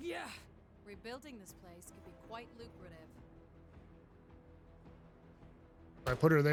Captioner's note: silence